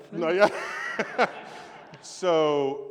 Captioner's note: laughter